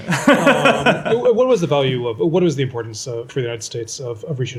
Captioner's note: laughter